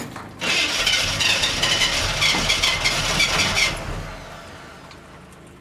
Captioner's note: engine trying to start